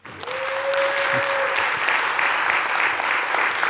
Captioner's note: applause